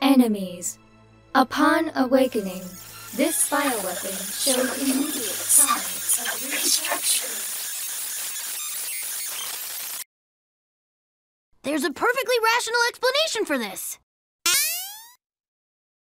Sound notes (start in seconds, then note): 10.0 the computer crashes; 15.0 surprised